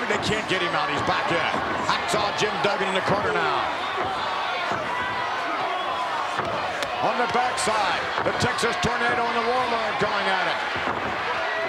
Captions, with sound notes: They can't get him out. He's back in. Hacksaw Jim Duggan in the corner now. (crowd shout) On the backside, the Texas Tornado and the Warlord are going at it.